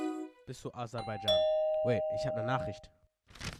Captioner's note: ding dong